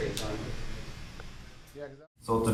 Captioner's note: clippers hum